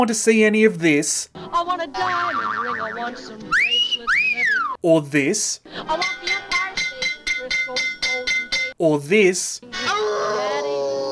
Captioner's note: boing!; awwooooooo!